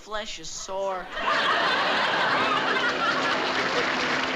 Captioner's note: audience laughing